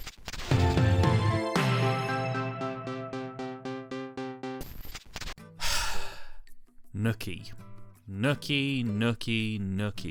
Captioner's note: sigh